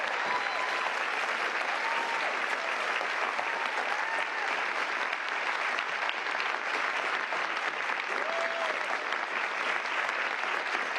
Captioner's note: cheers and applause